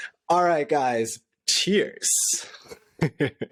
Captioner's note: laughter